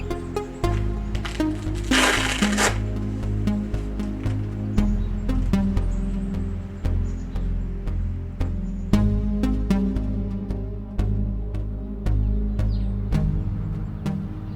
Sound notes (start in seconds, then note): 1.2 velcro tears; 5.0 pensive synth music continues